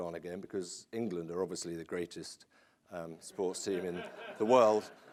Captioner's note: laughter